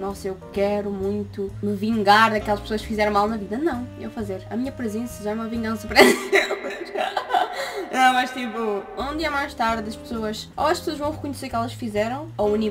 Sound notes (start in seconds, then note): 5.9 laughter